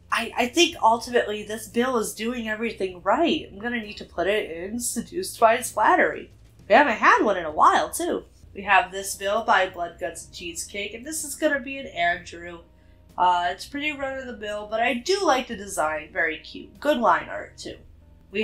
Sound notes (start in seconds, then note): none